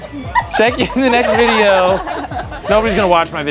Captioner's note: all giggling